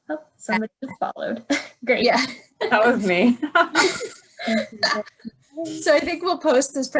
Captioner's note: laughter